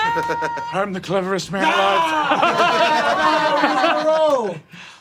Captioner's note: Kofi screams